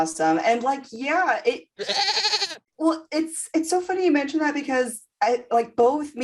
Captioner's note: goat noises for accidental privacy concerns